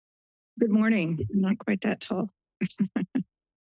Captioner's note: chuckles